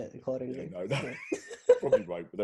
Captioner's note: both laughing